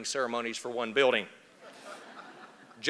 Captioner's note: laughter